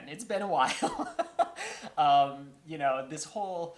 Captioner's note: laughter